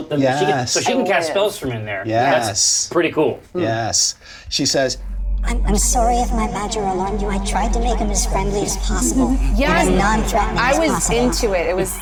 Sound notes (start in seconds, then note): 5.8 tiny voice